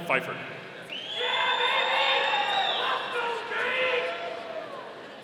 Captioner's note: audience cheering